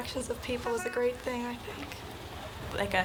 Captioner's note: horn honks